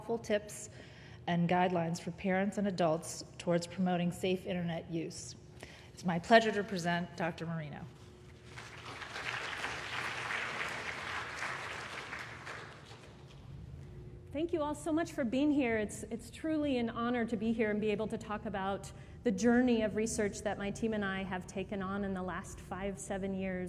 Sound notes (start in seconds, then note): 8.4 applause